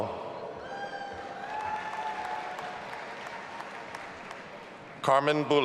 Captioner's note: audience applauding and cheering